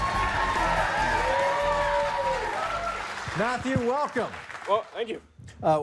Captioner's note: cheers and applause